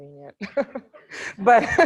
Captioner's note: group laughter